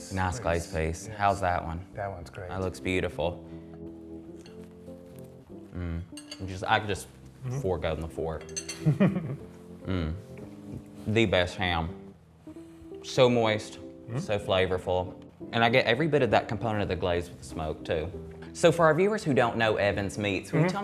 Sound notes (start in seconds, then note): 4.8 gentle idle music; 8.8 chuckles